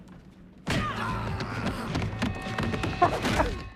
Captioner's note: laughter